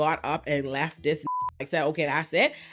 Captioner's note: beep